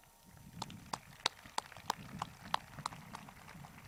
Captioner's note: crowd claps